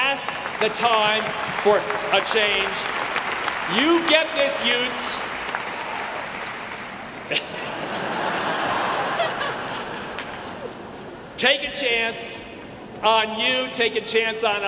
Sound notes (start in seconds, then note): 2.4 audience clapping; 7.1 audience laughing